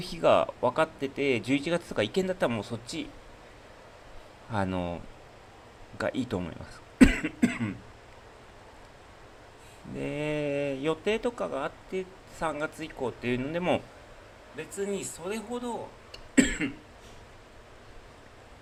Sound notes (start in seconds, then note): 7.0 cough; 7.0 clears throat